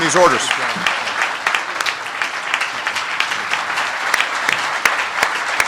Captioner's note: applause